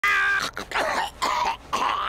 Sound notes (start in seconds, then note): 0.2 coughs